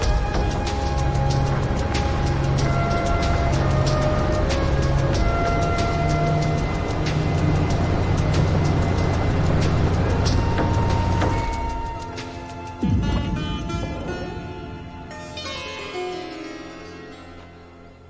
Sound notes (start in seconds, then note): 11.0 car engine stops; 12.6 indian sitar music